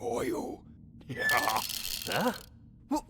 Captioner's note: suspicious chuckle